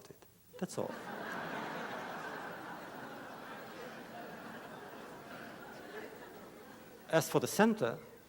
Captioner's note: laughter